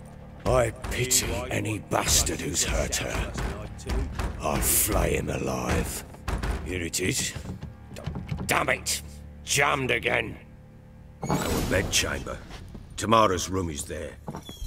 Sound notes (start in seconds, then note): 8.4 jiggles doorknob; 11.2 door squeaks open